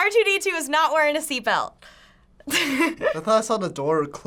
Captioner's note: chuckles